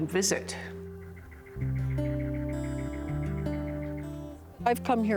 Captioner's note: bird chirping